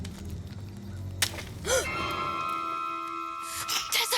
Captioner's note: leah gasps